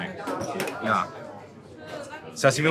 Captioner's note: people chattering